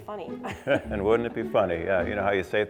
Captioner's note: laughs